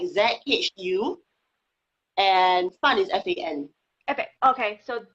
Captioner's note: speaking foreign language